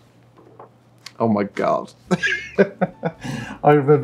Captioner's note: laughs